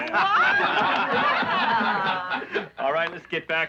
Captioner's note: laughing